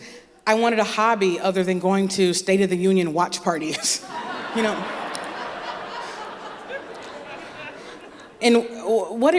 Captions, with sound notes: I wanted a hobby other than going to State of the Union watch parties. (Laughter) And what